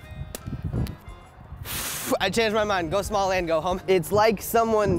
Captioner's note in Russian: выдыхая